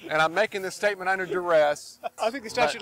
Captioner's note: background laughing